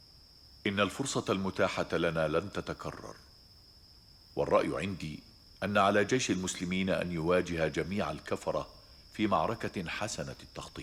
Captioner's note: speaking arabic